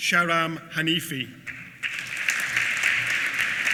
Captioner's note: applause